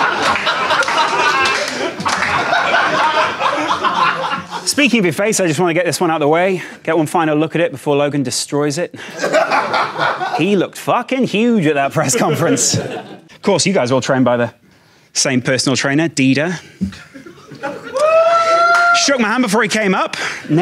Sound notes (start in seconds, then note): 0.0 audience applauds; 9.0 Sidemen laugh; 17.8 man cheers